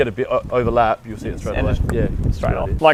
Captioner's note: clicks